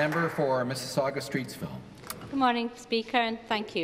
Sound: applause

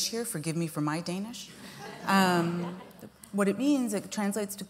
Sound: laughter

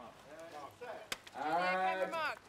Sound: clap

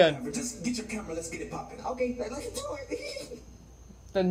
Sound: giggles

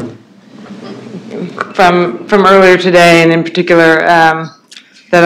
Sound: feedback

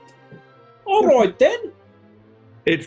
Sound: exaggerated accent

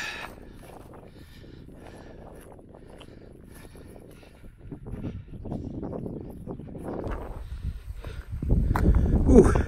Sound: with a sigh; wind blowing, increasingly louder

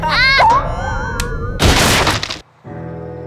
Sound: loud crack

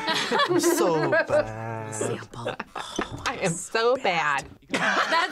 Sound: both laugh; laughs; laughs

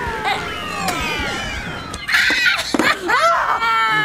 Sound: squeals triumphantly

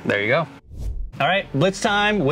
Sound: air swooshing

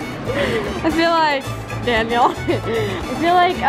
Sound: laughs; laughs

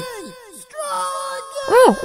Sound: "STRAW GANG" echoes

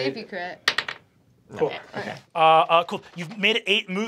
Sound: die clatters

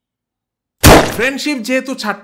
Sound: gunshot

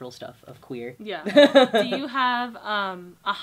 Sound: laughter

